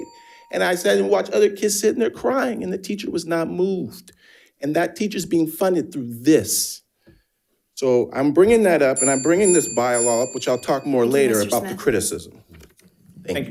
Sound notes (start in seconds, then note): 0.0 bell dinging; 9.0 bell dinging